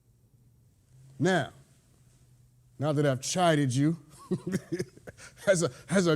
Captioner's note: laughs